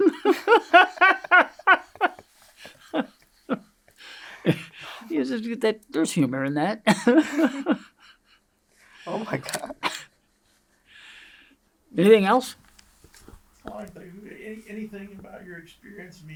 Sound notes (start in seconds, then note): 0.0 laughs; 6.9 laughs